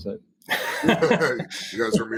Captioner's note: laughing